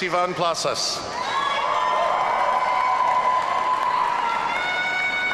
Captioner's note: audience cheering